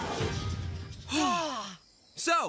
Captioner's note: both Sighing